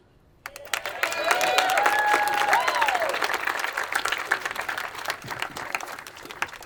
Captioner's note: attendees applauding and cheering